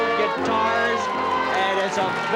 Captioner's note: cheering and applause